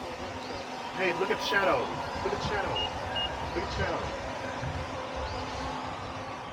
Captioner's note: crowd chatter